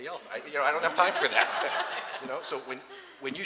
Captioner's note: laughter